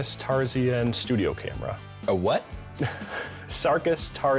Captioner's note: chuckles